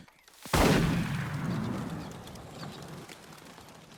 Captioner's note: gun fires